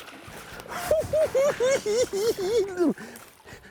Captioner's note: cackling